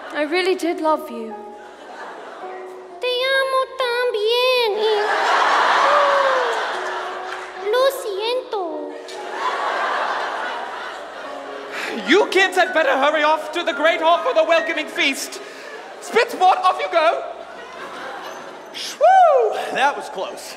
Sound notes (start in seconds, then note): 3.1 Draco in high-pitched voice; 4.9 audience laughs; 9.0 audience laughs